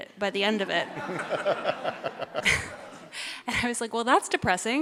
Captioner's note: audience laughs